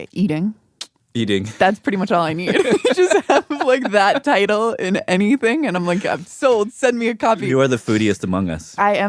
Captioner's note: laughs